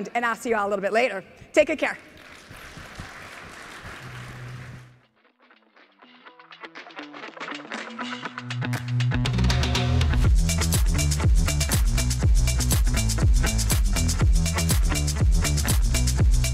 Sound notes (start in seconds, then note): 2.1 audience applauding; 2.4 energetic music; 11.3 energetic music continues